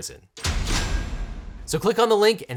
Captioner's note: bars clunk